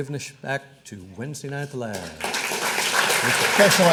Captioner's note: audience applauding